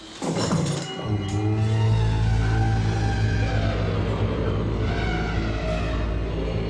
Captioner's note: loud humming; elephants trumpeting